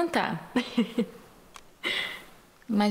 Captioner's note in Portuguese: risos